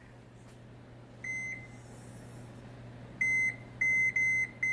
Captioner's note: oven beeps